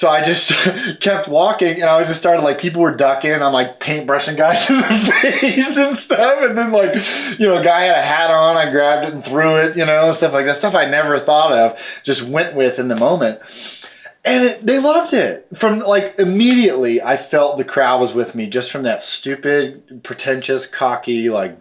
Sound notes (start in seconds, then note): 4.4 laughs